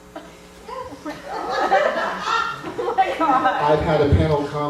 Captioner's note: laughter